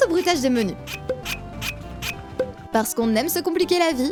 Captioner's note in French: bruits de bouchons